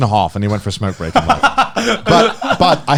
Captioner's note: laughing